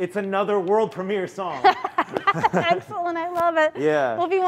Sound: laughs

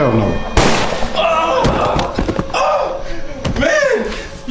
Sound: gunshot

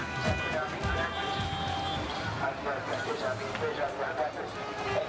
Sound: cars hooting

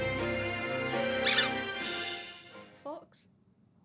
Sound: theme begins; toy squeaks

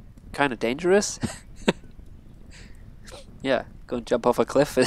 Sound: laughs

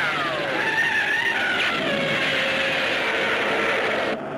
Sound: Gammera screeching

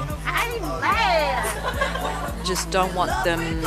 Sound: laughs

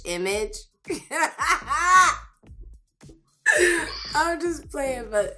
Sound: laughs

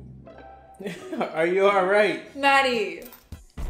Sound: chuckles

